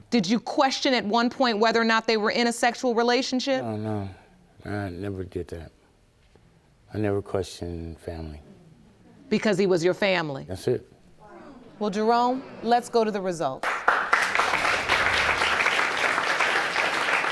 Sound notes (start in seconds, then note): 13.6 audience applauding